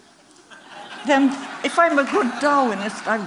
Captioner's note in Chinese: Laughter; 笑聲